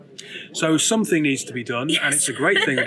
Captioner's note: laughs